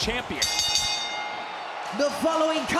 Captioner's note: ring bell dings